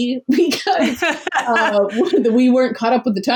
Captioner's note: laughs